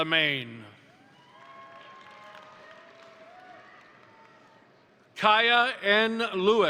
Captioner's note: crowd cheering; crowd applauding